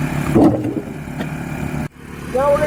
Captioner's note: board falls